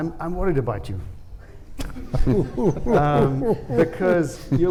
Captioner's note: laughs